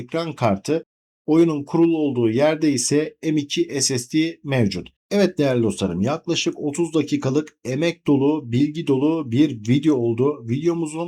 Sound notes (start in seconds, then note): none